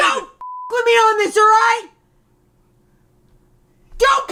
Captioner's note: beep